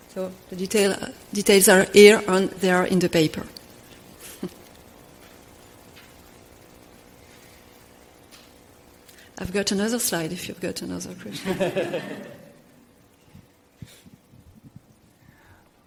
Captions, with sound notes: So, they are here and in the paper. (laughs) I've got another slide if you got another question. (audience laughs)